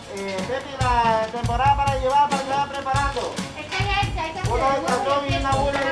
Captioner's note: kitchen staff chattering